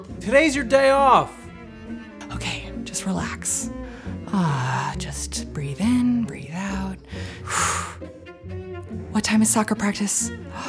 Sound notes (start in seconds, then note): 7.0 exhales